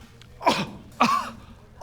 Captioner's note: kuh